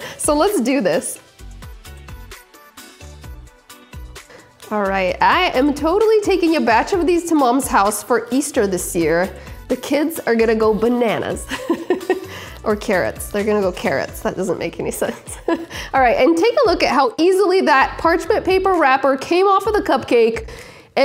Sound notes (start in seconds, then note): 11.5 laughs